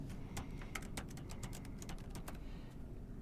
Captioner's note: typing Noises